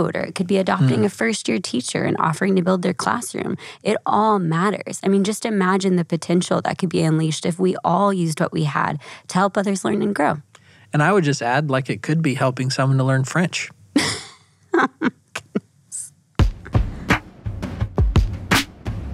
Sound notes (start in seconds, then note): 14.7 laughs; 16.4 bouncy music